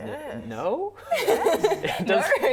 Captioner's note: laughing